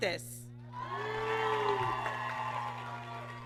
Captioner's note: applause